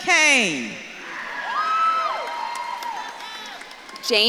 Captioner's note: audience claps and cheers